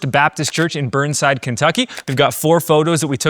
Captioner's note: camera clicking